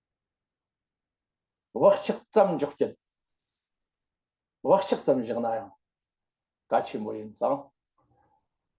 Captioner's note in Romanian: în tibetană